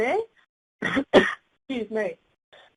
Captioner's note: coughing